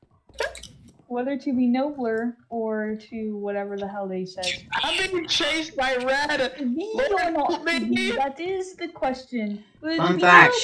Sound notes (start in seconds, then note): 1.3 normal voice